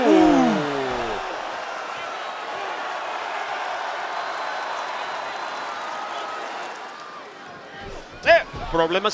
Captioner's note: applause